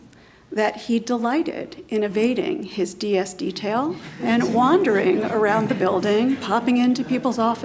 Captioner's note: laughter